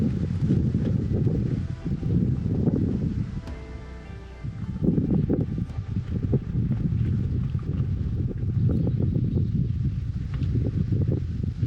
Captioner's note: wind blowing